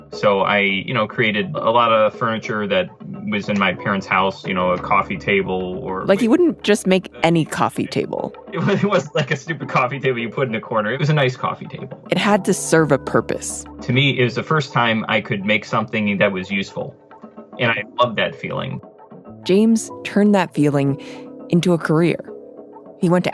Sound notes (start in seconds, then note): 8.5 laughs